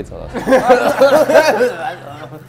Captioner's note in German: Hüstelndes Lachen